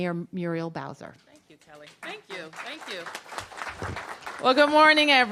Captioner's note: applause